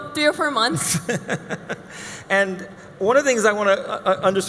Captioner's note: laughing